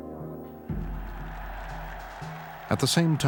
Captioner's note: cheers and applause